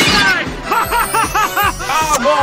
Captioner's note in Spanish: risas